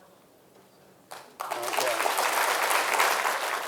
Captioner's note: audience applauding